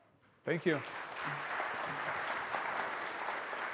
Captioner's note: audience clapping